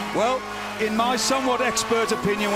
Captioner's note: bell ringing